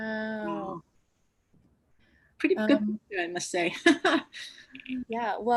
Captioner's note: laughs; laughs